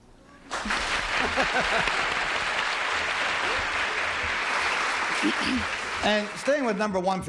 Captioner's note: applause